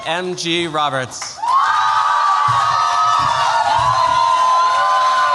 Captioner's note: cheers, applause